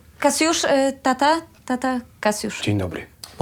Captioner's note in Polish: none